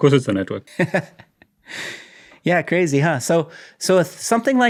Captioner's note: chuckling